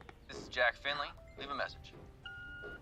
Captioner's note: beeping